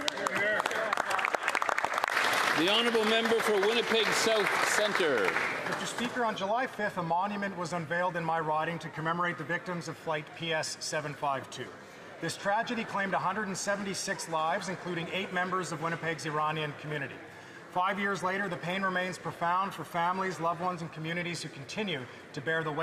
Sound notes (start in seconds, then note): 7.5 some Applause